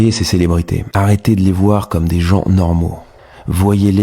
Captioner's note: french dialogue continues